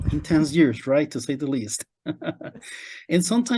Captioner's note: laughs